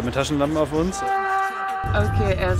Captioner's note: distant scream